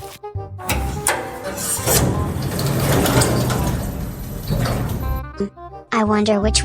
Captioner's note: footsteps; elevator closes